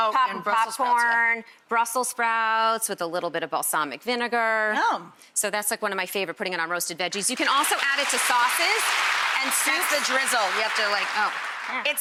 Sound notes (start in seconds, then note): 7.3 crowd applauds